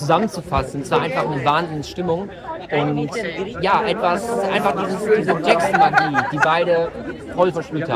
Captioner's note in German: gelächter